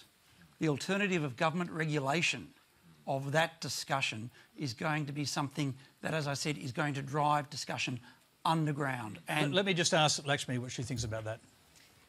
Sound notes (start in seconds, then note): none